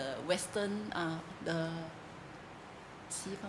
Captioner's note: speaking in foreign language